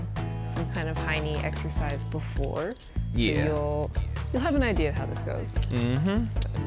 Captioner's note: none